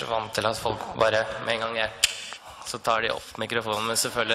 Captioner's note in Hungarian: csettint a nyelvével